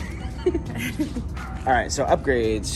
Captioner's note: both chuckles